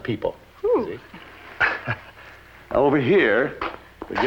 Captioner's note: chuckles